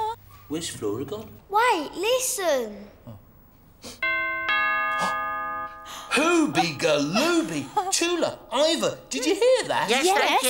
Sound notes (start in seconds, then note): 4.0 door bell rings